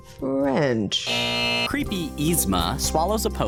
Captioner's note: buzzer